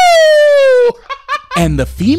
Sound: laughs

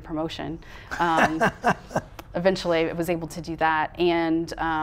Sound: laughing

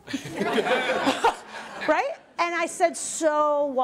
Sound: laughter

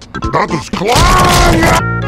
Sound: table crushing body, loud scream

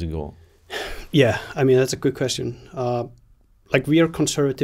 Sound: sighs

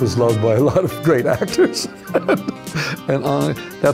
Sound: laughing

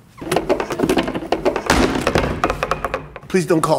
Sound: chair rattles

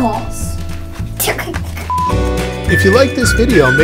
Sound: giggles

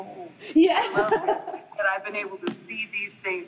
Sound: group laughing

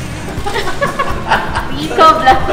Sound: laughs

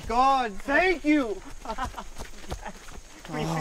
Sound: joyful laughter

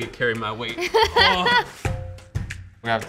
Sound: laughter

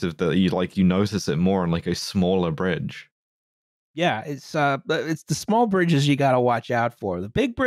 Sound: none

